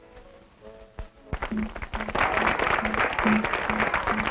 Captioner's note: applause